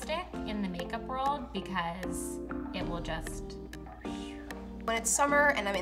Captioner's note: blows air